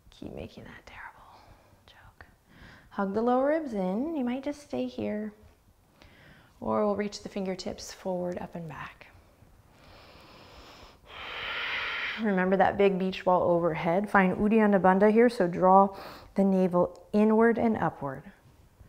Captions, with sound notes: Keep making that terrible joke. Hug the lower ribs in. You might just stay here. Or we'll reach the fingertips forward, up, and back. (deep breathing) Remember that big beach ball overhead. Find Uddiyana Bandha here, so draw the navel inward and upward.